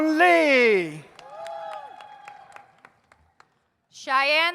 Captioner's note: audience applauds